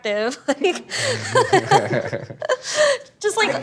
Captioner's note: laughs